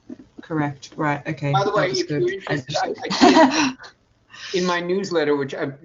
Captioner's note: laughs